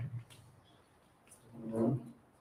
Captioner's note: chair scraping